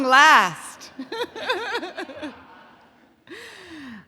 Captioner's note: both laugh